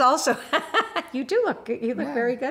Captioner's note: laughs